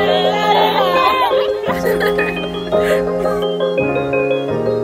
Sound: laughing

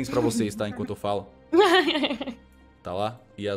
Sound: laugh

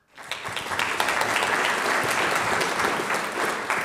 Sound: audience applauds

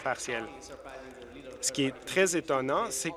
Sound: applause

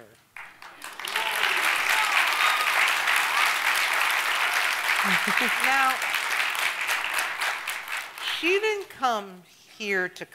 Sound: applause

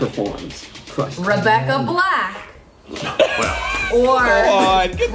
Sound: laughter

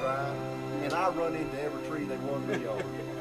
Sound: laughter

